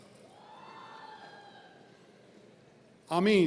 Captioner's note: audience cheering